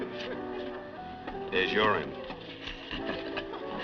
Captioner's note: chuckles